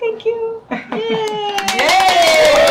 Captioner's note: audience applauding